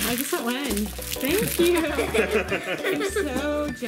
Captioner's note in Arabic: ضحك